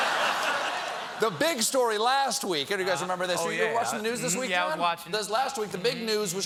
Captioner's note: laughter